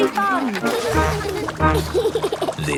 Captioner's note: giggles